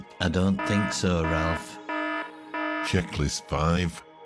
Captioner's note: alarm siren ringing